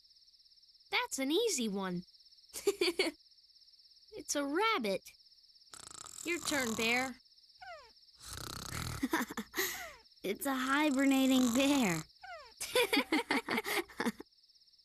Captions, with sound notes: THAT'S AN EASY ONE. (GIGGLE) IT'S A RABBIT! YOUR TURN, BEAR. (SNORING) IT'S A HIBERNATING BEAR. (GIGGLES)